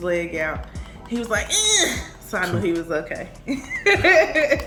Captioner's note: imitates baby crying; laughing